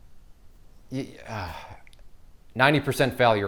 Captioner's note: sighing